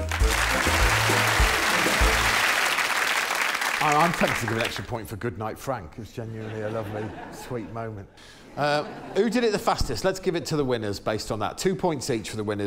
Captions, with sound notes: -Goodnight, Tim. -Goodnight, Frank. [applause] Oh, I'm tempted to give an extra point for "godnight, Frank". It was genuinely a lovely, sweet moment.